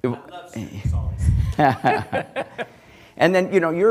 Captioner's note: laughs